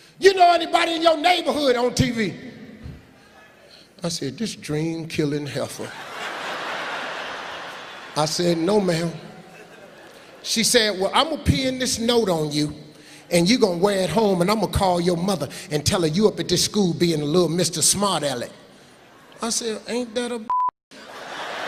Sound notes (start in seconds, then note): 6.1 laughing; 20.4 beeping